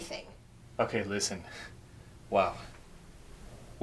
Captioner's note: sighs